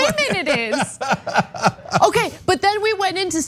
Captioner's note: laugh